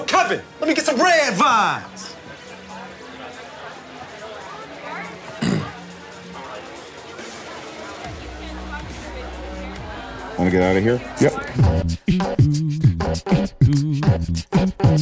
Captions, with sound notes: - Yo, Kevin, let get some Red Vines! (Key clears throat) - Wanna get outta here? - Yep. (upbeat music)